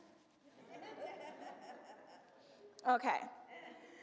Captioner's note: audience laughs